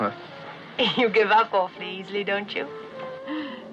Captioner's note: laughing